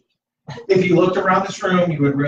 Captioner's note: laughter